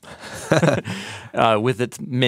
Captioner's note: both laughing